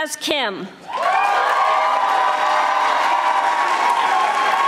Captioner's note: audience applauding